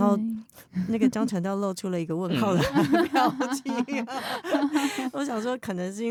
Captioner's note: haha